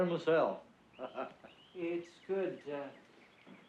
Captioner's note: laughs